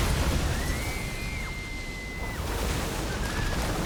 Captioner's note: screaming